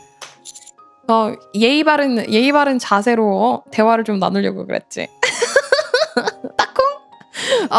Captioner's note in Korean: 웃음